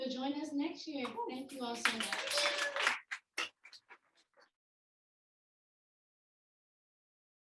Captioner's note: audience applauding